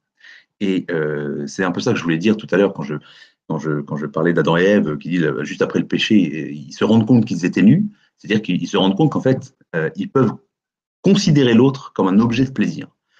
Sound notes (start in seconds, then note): none